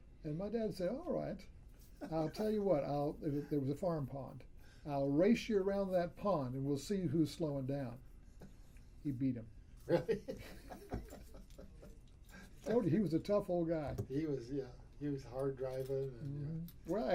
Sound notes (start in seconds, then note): 9.9 laughs